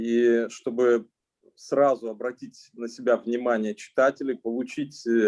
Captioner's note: speaking Russian language